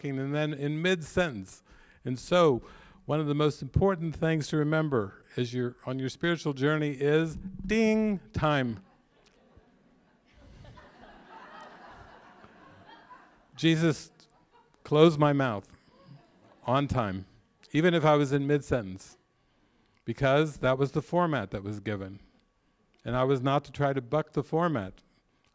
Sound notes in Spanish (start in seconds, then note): 11.8 ding